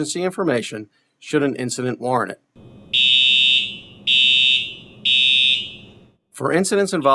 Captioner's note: alarm sound